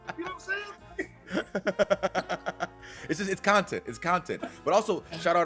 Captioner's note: laugh